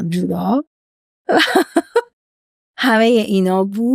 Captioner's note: laughs